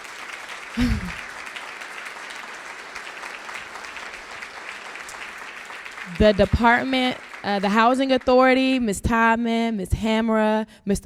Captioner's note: applause